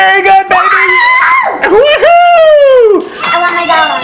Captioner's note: both cheer